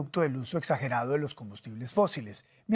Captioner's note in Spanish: HABLA EN INGLéS